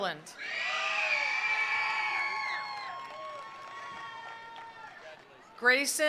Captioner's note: attendees cheering; attendees applauding